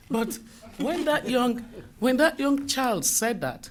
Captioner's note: laughter